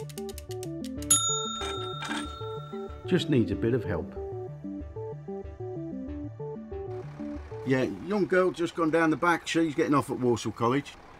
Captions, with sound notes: [Gauge dings] Just needs a bit of help. Yeah, young girl just gone down the back she’s getting off at Walsall College.